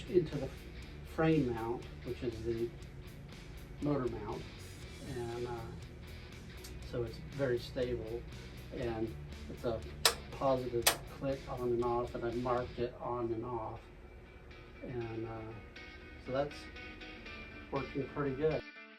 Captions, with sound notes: into the frame mount, which is the motor mount... and so it's very stable and it's a positive [Click] [Click] click on and off and I marked it on and off. so that's working pretty good